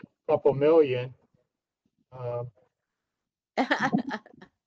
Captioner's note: laughter